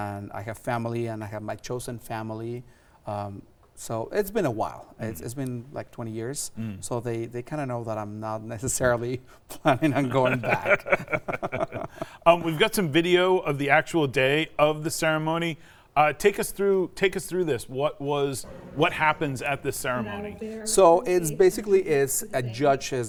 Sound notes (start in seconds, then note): 9.7 laughs; 11.1 both laugh